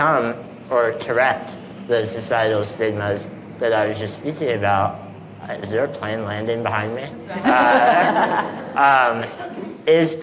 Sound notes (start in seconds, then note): 7.3 audience laughing